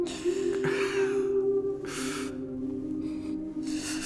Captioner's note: sobbing